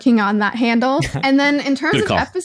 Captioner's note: laughs